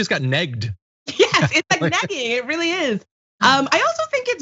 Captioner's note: laugh